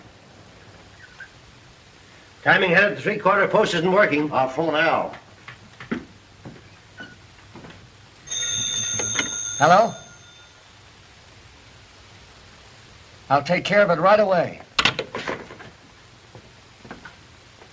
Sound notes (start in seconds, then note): 8.2 phone rings